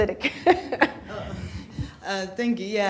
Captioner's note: laughs